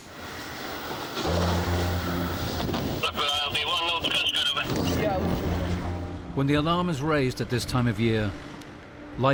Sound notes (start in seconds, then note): 1.2 car droning; 1.2 pensive music; 4.4 car droning